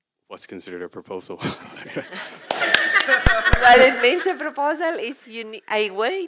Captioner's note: laugh